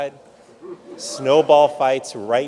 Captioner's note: audience laughs